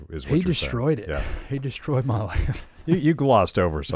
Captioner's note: laughs